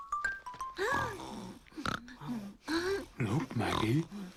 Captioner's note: snoring